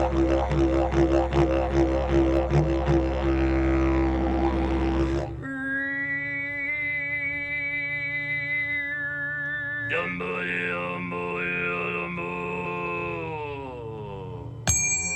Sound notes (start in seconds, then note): 0.0 droning Continues; 0.1 嗡嗡声继续; 5.4 droning Tone; 5.4 嗡嗡声